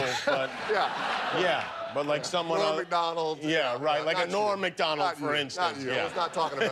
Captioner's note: laughter